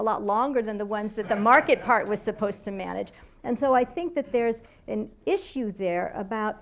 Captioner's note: laughter